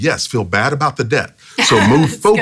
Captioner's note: laughs